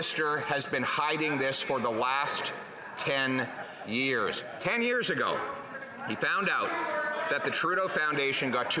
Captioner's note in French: voix de l'interprète